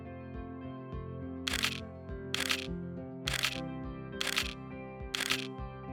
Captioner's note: camera clicks